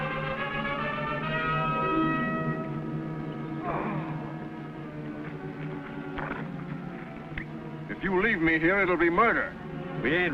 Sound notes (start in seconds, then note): 3.6 groaning